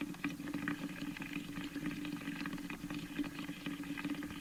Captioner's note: bubbling sounds